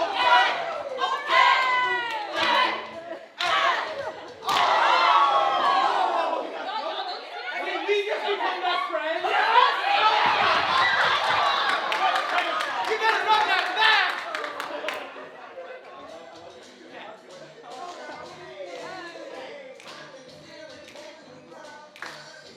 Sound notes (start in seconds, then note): 0.0 audience clapping and cheering; 9.9 group yelling